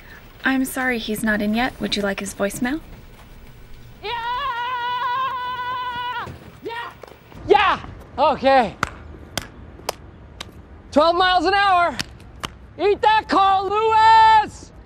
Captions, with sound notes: I'm sorry, he's not in yet. Would you like his voicemail? [Michael yelling] Yeah! Yeah, okay! 12 miles an hour. Eat that, Carl Lewis!